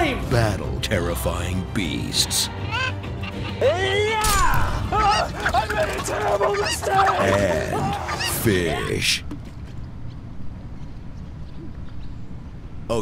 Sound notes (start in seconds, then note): 2.5 chicken clucks; 3.7 battle cry; 4.6 chickens squawk angrily; 9.5 birds chirp